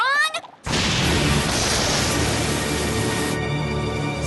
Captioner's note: thunder crashes